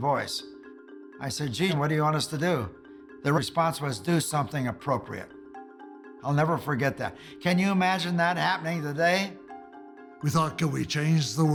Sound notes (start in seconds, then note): none